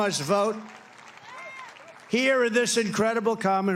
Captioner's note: applause